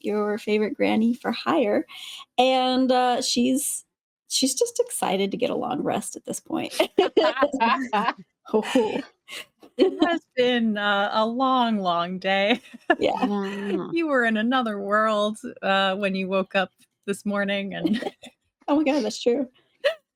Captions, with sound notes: your favorite granny for hire. And she's just excited to get a long rest at this point. (cast members laughing) - It has been a long, long day. - Yeah. - You were in another world when you woke up this morning. - Oh my god, that's true.